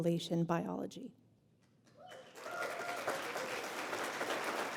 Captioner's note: applause